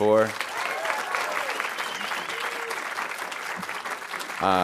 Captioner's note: audience applauding